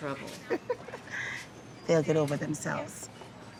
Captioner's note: laughing